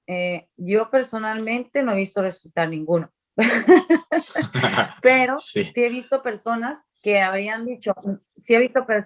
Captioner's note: laughs